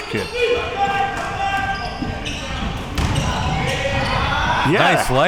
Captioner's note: audience chattering and yelling